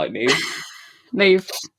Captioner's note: laughs